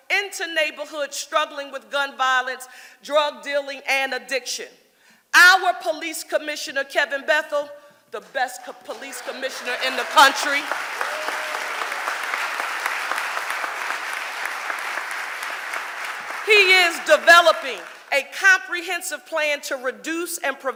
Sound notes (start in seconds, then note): 11.1 audience applauding